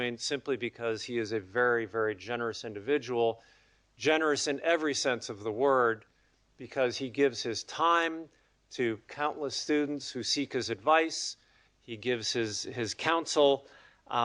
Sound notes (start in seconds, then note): none